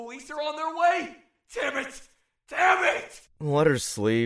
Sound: In Andy’s voice

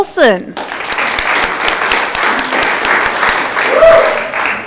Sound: audience clapping

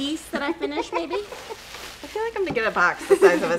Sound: laughing

